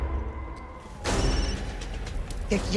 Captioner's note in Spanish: Suena celular